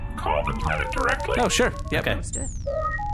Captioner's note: communicator ringing